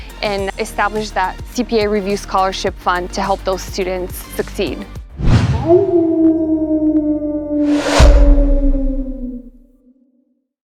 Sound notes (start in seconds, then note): 5.6 coyote Howl